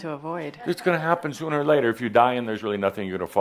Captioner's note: none